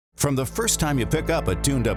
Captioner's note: voiceover